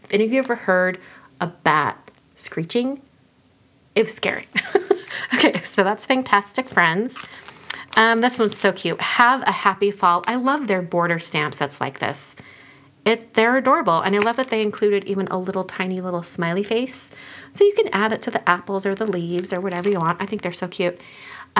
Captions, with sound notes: Have any of you ever heard a bat screeching? It was scary. (laughs) Okay, so that's Fangtastic Friends. This one's so cute, Have a Happy Fall. I love their border stamps that's like this, they're adorable. And I love that they included even a little tiny little smiley face so you can add it to the apples or the leaves or whatever you want. I think they're so cute.